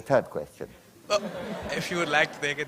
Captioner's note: laughter